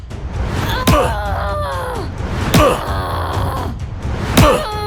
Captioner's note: Akari and man grunting